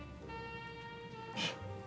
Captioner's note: scoffs